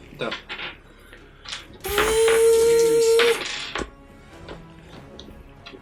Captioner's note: chainsaw noises; keeps imitating the saw